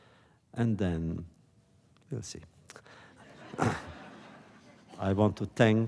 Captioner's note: laughter